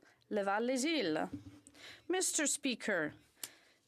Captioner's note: speaking french